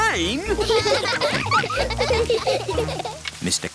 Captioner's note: all laughing